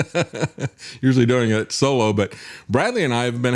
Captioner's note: laughing